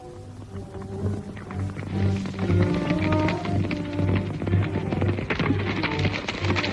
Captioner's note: soft suspenseful music; hooves clomping